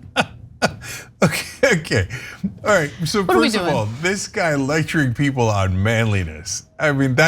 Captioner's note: laugh